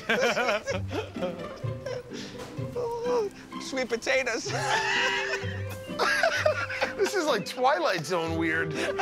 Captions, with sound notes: [ Laughter ] Sweet potatoes. [ Laughs ] This is like "Twilight Zone" weird.